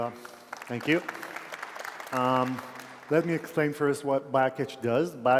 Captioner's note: applause